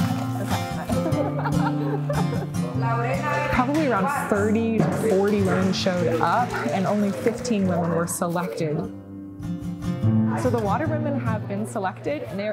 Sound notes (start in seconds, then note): 0.0 all laughing